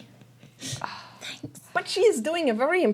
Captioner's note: whispering